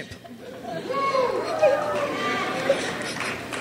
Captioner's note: crowd cheers